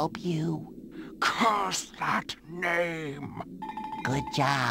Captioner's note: whispers